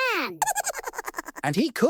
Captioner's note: high-pitched laugh